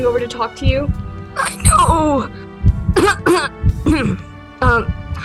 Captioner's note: lucy's heart beats faster; lucy coughs